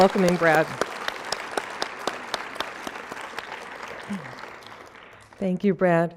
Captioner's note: applause